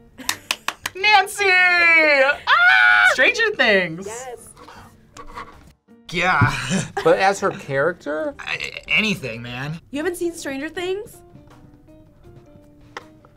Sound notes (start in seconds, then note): 0.3 React laughs; 2.3 screams; 4.5 gasps